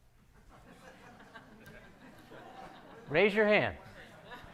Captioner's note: audience laughing